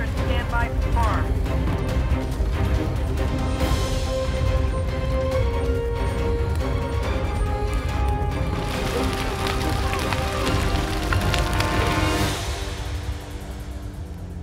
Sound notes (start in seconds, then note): 2.7 dramatic music; 2.7 fire crackles